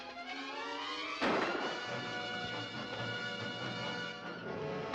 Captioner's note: gun firing